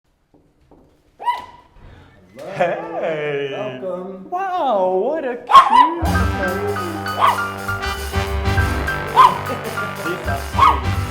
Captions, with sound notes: (Knock, knock) – Helloo! Welcome! – Heyy! Wow! What a- cuuuu-